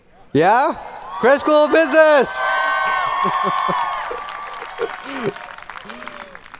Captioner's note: audience cheering